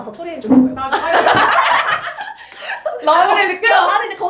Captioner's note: laughter